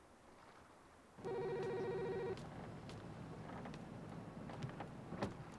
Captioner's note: phone ringing